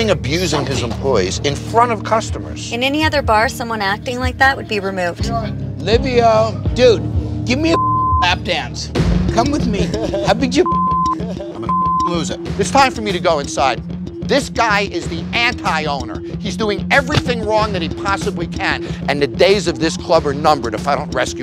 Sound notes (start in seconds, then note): 10.6 beep